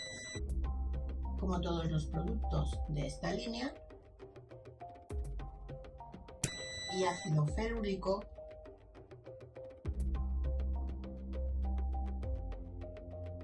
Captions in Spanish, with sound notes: ... como todos los productos de esta línea... (sonido: piiiii) ... y ácido ferúlico...